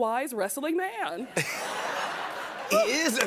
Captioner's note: laughter